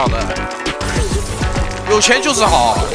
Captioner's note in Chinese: 泣不成声